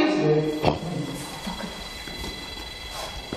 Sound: mutters; machine beeping rapidly

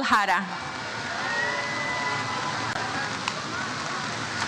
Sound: audience cheers

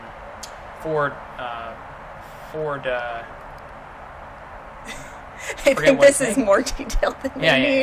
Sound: laughs

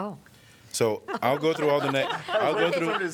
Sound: laughter

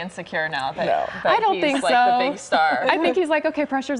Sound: laughter

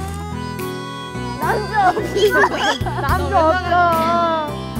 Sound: cry

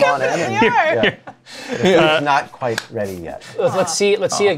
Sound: laughs; laughter

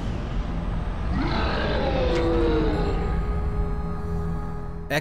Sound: roars

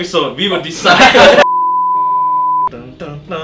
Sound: beep

